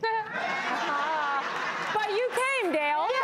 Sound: laughter

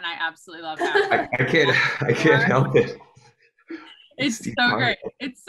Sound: chuckles

